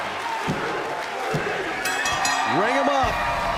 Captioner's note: bell ringing; crowd cheering